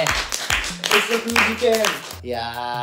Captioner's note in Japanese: 拍手